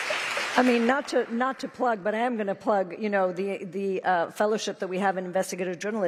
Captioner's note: applause